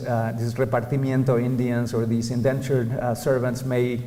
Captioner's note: non-english speech